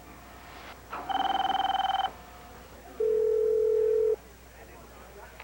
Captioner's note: telephone rings